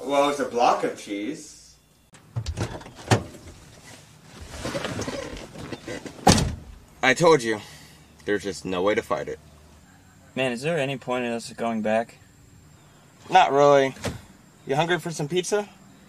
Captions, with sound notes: Well, it's a block of cheese. [door opening] [door closing] I told you, there's just no way to fight it. Is there any point in us going back? Not really. You hungry for some pizza?